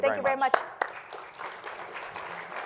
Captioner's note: applause